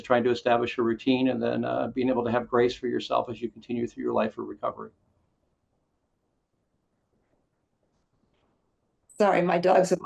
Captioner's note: pause